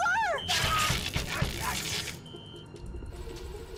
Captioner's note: yells